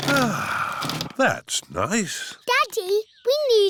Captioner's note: sighs